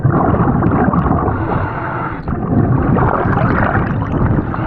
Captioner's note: bubbles gurgling